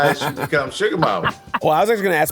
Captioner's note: laughter